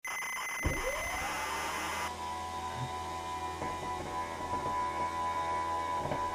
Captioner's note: desk actuator sound